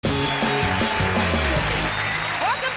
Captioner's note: cheers and applause